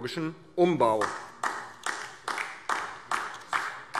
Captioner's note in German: Beifall DIE LINKE